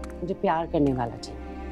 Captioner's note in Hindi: none